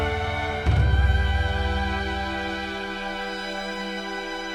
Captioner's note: none